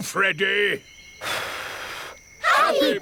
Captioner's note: blows